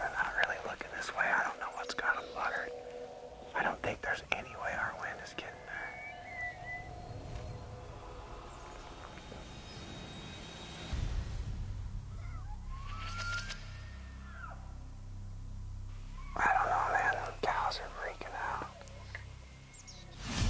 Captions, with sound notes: They're not really looking this way. I don't know what's got 'em bothered. I don't think there's any way our wind is getting there. (tense music) (elk bugling) I don't know, man. The cows are freaking out.